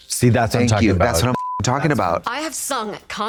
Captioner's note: beep